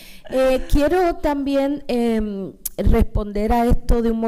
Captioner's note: speaking spanish